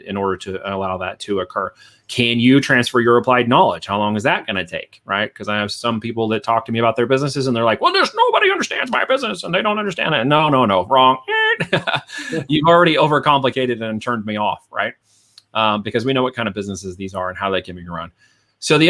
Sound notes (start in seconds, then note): 11.2 laughs